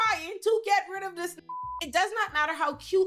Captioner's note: beep